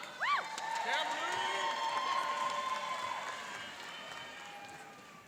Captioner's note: cheering and applauding